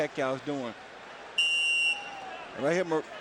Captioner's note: whistle blows